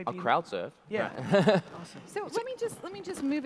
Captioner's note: laughs